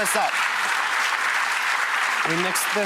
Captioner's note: audience applauding